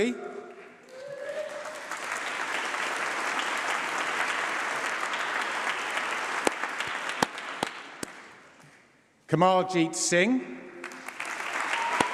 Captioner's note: applause; applause